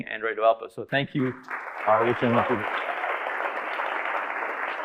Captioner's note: audience applauding